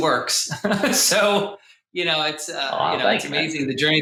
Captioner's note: laughs